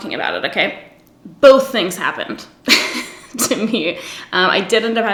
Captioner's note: laughs